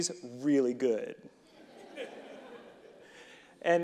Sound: audience laughing

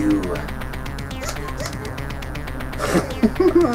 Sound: gun squeaks; laughter

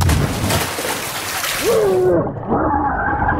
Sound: Papi splashes; Papi grunts

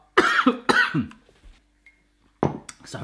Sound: coughs

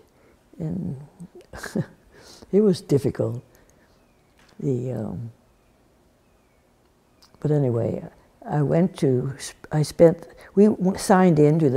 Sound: laughs

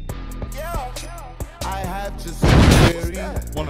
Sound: explosion

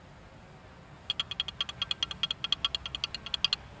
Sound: rattling

